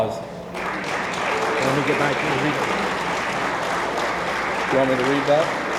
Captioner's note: attendees applaud